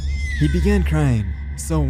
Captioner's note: baby crying